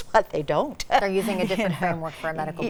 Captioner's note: chuckling